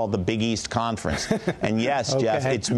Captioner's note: laughter